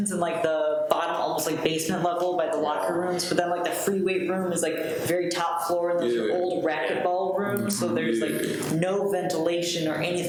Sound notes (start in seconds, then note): none